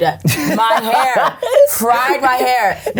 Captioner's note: laughing